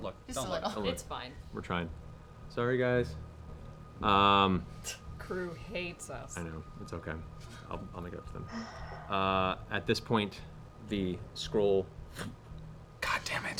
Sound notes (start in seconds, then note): 11.3 fluttering noise